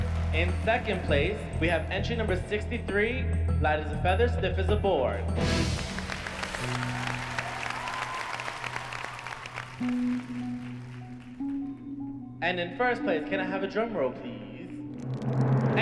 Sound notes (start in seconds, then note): 5.6 applause